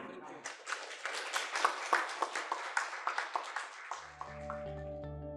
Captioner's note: audience applauding; gentle music